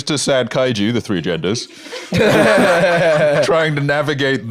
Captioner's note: all laughing